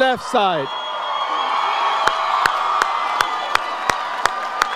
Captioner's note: audience cheers